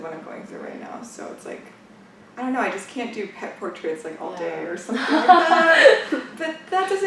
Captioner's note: laughs